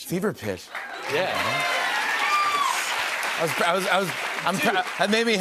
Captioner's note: cheers and applause